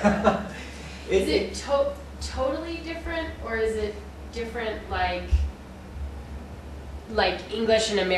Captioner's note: laughter